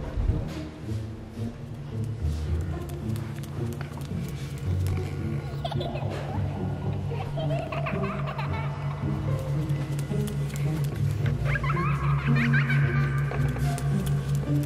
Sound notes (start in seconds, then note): 7.0 little girl giggling; 10.7 shuffling footsteps; 12.1 creep giggling; 14.4 shuffling footsteps